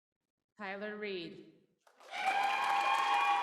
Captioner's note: applause